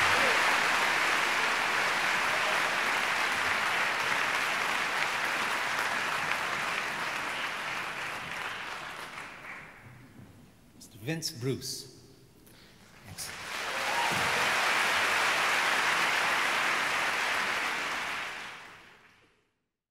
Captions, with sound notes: Mr. Vince Bruce. (audience applauds)